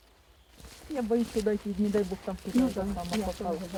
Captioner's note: women talking